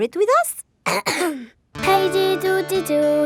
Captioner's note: clears throat